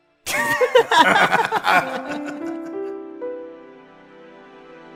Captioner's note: knife and suitcase laugh